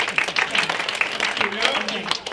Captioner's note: applause